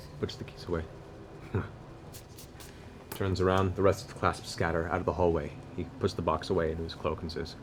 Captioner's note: grunts